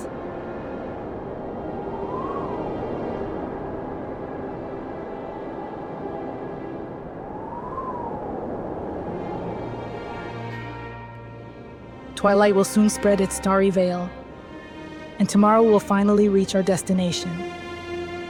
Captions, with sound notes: (Air whistles) (Soft music) Twilight will soon spread its starry veil and tomorrow we'll finally reach our destination.